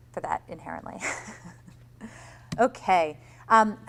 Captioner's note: laughs